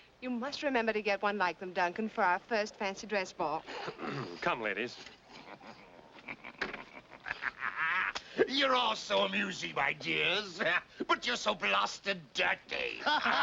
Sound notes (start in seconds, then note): 3.8 ahem; 5.0 snickering